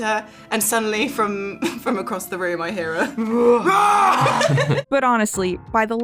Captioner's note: Daisy Head also growls a bit